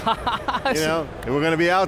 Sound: laughs

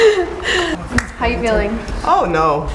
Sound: laughing

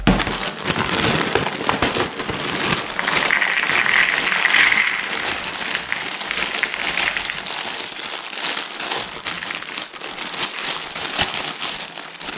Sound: crackling noise of plastic

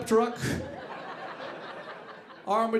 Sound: audience laughing

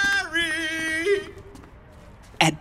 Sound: footsteps receding

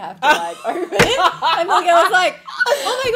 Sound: laughing

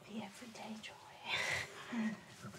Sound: laughing

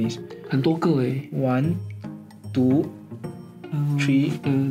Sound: Mandarin

